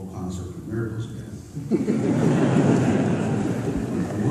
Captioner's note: laughter